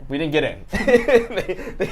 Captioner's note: laughs